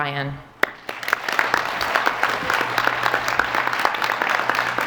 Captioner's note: applause